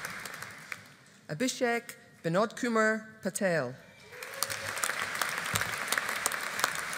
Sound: audience applauding

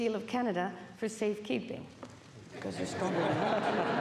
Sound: speaking French

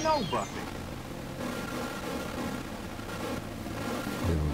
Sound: TV static

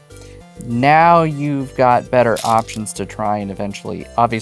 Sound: new song begins; stones rattling

